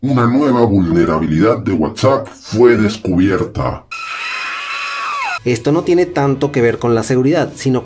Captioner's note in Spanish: Grito psicosis